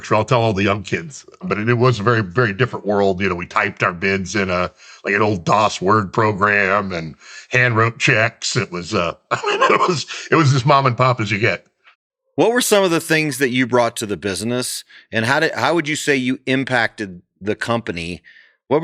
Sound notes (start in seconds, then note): 8.8 both laugh